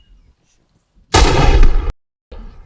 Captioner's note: gun fires